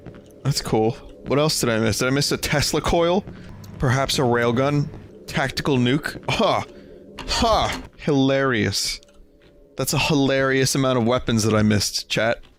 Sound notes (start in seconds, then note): 6.3 sarcastically